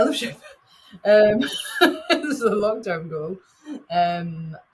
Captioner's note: chuckles